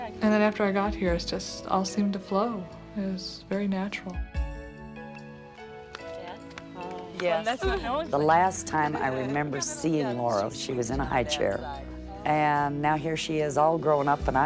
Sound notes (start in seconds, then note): 5.6 indistinct chatter